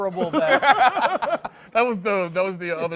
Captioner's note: laughs